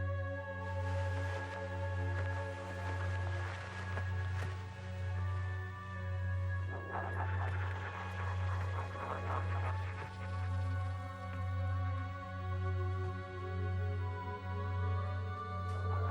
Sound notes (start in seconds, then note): 6.8 ghostly voices chattering; 15.9 ghostly voices chattering